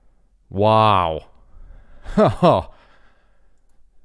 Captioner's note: laughs